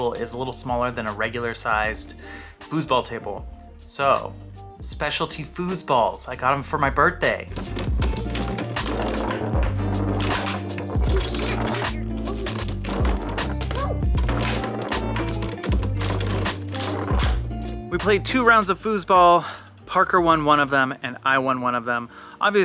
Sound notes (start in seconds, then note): 8.8 chill music; 11.0 foosball and rods clanging